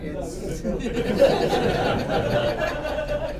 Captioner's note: laughter